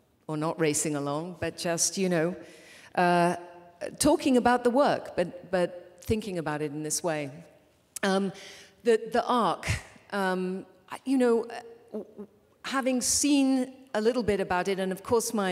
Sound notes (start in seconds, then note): none